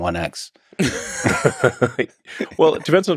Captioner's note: both laughing